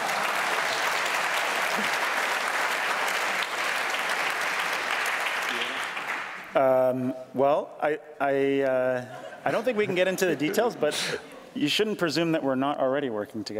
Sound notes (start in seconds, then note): 6.7 applause